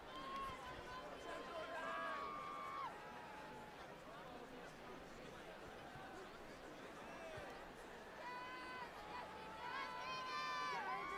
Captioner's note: applause